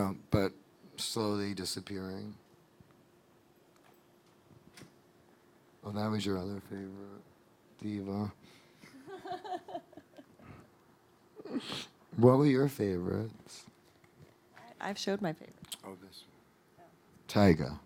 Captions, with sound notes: but slowly disappearing. Oh, that was your other favorite. Diva (laughing) What were your favorites? - I've showed my favorites. - Oh this one, Tyga.